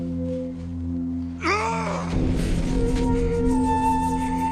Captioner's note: man screaming